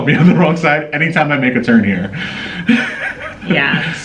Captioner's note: laughing